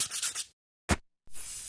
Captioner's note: sand paper scrapes; spray can hisses